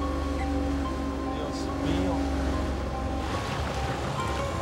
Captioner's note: speaking spanish